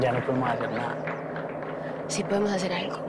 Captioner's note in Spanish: Aplausos